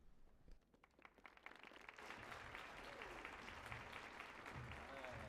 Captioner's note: audience claps